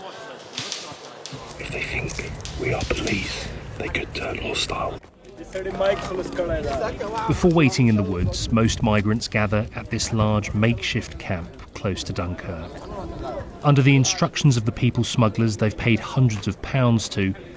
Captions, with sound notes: [man speaking French] If they think we are police, they could turn hostile. [man speaking foreign language] Before waiting in the woods, most migrants gather at this large makeshift camp close to Dunker. Under the instructions of the people smugglers they've paid hundreds of pounds